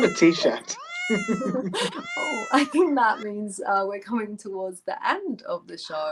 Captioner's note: meow sounds